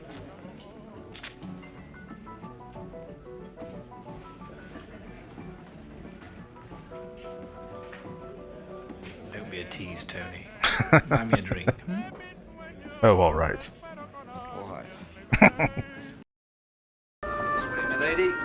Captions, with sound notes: [Laughing] Oh, all right. [Chuckling]